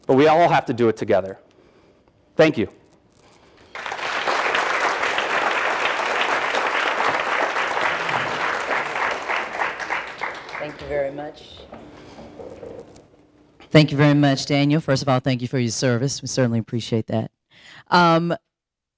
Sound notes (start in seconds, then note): 3.5 audience applauding